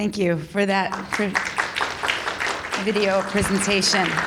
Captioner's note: audience applauding